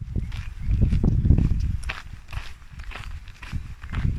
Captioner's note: wind & footsteps